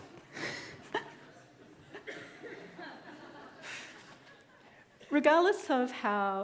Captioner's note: audience laughing; laughs